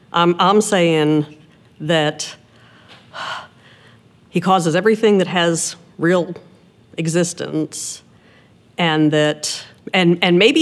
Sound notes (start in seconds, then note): 3.1 sigh